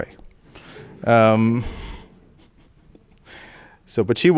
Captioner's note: audience laughing